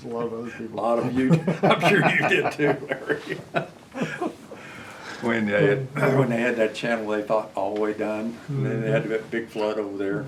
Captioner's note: laughter